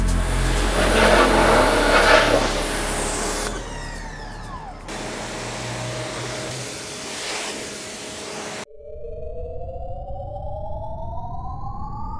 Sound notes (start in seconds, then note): 3.2 pressure washer stops humming; 5.1 pressure washer humming; 5.1 water swooshing; 9.1 spaceship chiming